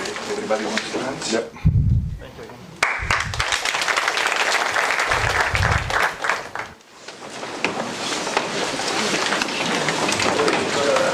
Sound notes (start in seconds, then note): 2.8 applause; 4.7 indistinct conversation